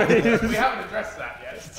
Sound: Sidemen laughing

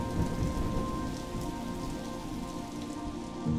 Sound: rain and thunder

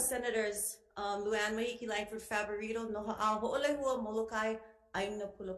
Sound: speaks Ōlelo Hawai'i

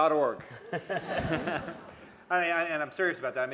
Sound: laughter

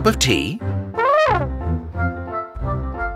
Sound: Elly trumpets

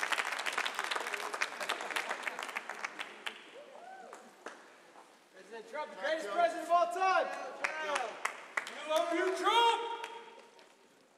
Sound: cheers and applause; applause

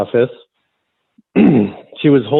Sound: clears throat

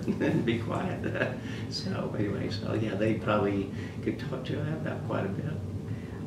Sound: laughs

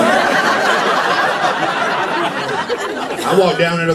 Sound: laughter

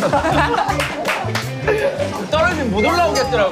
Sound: splashing

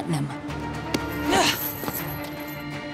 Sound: grunting

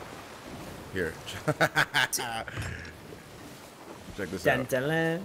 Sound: laugh

